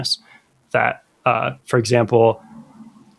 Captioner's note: uh